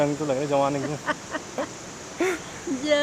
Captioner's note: both laughs